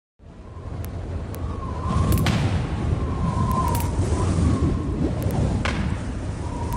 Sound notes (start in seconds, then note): 0.2 wind howling; 2.1 explosion booms; 5.1 static crackling